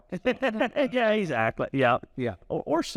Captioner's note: laughs